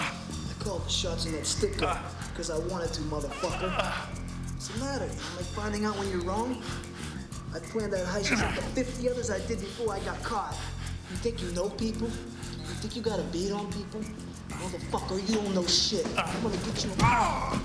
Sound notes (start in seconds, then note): 0.0 Rick groans; 3.3 Rick groans; 16.0 Enrique grunting